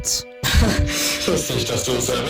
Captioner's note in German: kurzes lachen